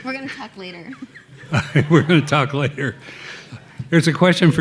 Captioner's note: laughing